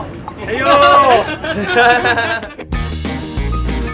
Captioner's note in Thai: เสียงหัวเราะ